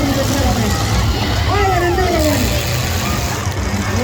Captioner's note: crowd cheers